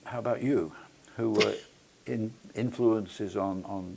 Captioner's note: laugh